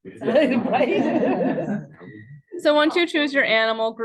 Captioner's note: students chuckles